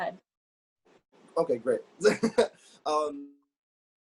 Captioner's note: laughs